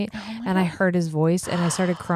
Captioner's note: gasps